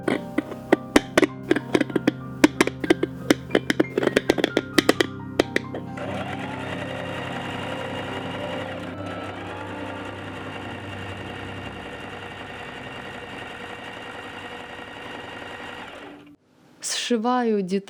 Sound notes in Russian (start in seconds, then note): 0.0 звук ножниц; 5.7 стук швейной машины